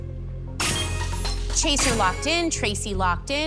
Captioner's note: chime, chime